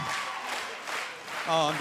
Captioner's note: clapping